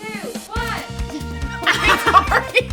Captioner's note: all laughing